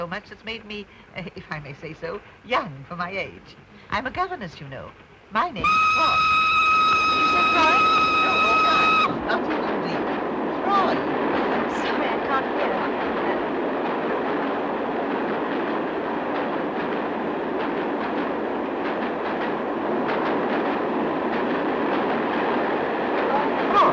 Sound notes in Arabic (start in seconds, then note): 5.6 صافرة القطار; 9.0 السيدة فروي تحاول التحدث وسط هدير القطار الصاخب; 13.7 هدير القطار بصوت عالي